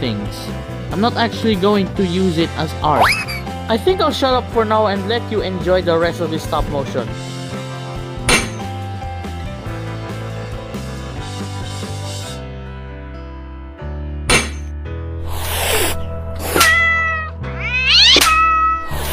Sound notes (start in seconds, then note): 15.2 hiss; 16.4 slap; 18.0 clap; 18.8 hisssss